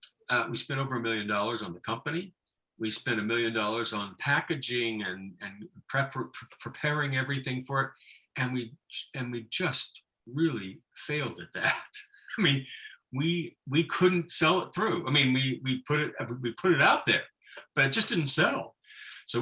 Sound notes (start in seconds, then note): 11.6 laughing